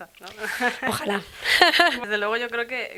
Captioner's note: laughs